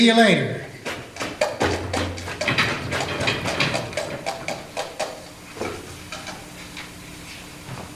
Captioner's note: wagon wheels rolling away